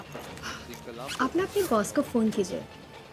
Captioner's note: Tanya gasps